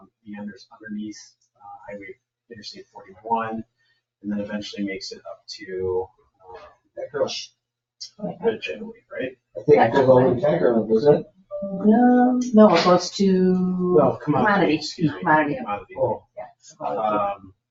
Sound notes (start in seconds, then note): 7.2 speaks distantly; 9.7 speaks distantly